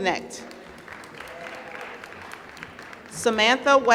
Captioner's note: applause